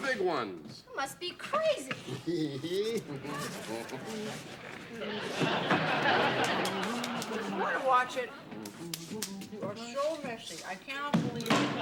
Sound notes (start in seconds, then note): 1.6 chuckles; 3.2 laughter